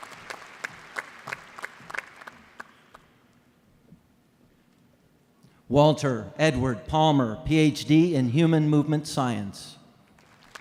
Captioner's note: applause